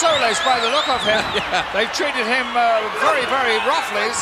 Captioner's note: chuckling